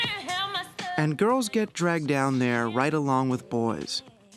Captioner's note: voice-over